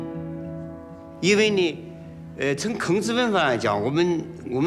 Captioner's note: hablan un idioma extranjero